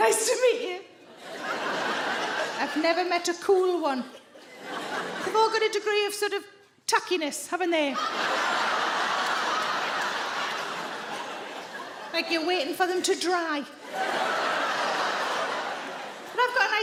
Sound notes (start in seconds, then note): 1.0 audience laughing; 7.9 audience laughing